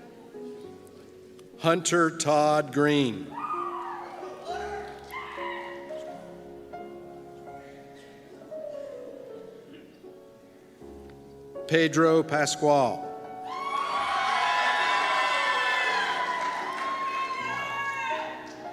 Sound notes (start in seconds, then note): 3.4 cheers; 13.4 cheers